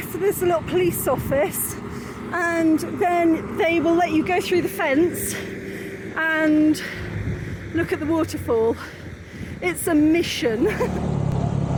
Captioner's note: laughing